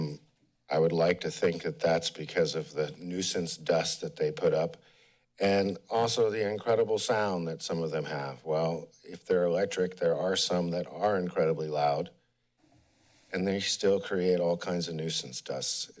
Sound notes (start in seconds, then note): 12.3 pause